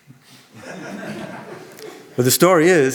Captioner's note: audience laughing